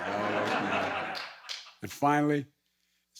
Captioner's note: laughter